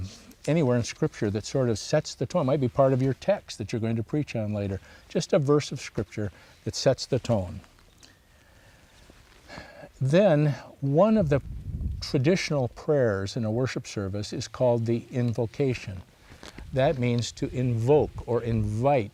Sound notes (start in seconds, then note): 9.4 breathes deeply